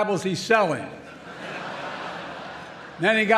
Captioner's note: laughter